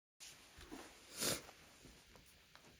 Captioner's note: sniff